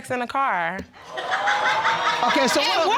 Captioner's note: laughter